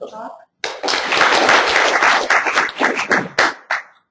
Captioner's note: applauding